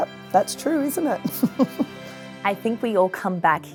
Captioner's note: chuckles